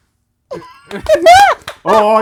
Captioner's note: laughter